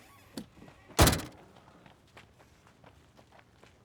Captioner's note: door slams